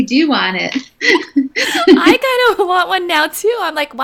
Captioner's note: laughing